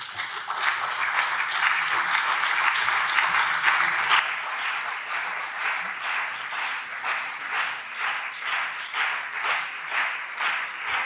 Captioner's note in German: Anhaltender Beifall CDU und SPD